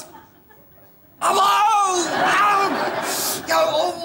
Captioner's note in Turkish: Canı aşımış gibi bağırır